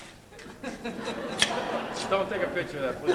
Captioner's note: audience laughs; scissors snip